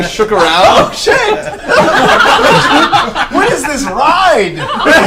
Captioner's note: all laugh